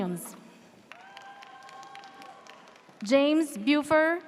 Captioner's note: audience cheers